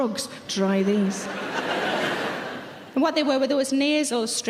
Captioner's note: audience laughing loudly